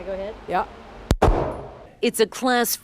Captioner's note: gun firing